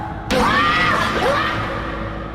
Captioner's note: screams